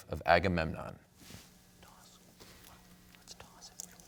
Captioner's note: whispering